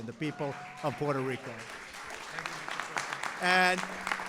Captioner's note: applause